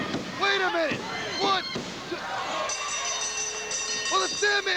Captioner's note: bell ringing